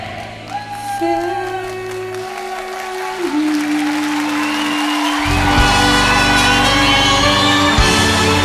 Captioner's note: audience ovations